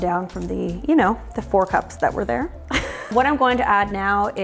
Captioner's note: chuckles